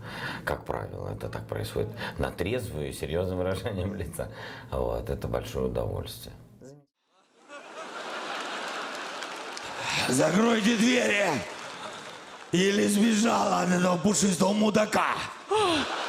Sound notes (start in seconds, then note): 7.2 laughter